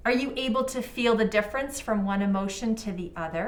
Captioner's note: none